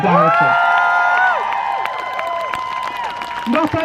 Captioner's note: crowd cheers